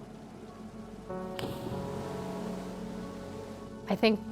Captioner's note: splashing